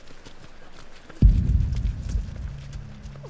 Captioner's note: footsteps